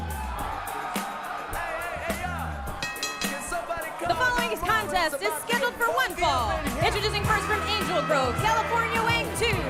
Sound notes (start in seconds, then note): 0.0 crowd cheering; 4.2 bell ringing